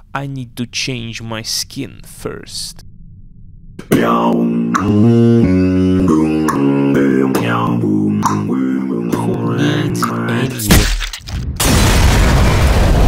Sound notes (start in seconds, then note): 10.7 smash